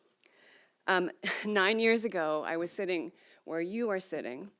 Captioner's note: laughs